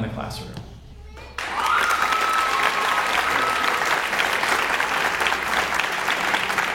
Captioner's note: audience applauds and cheers